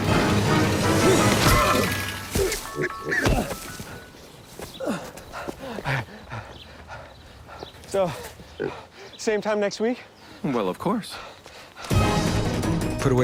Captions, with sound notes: [GRUNTS] [PANTING] SO, SAME TIME NEXT WEEK? WELL, OF COURSE.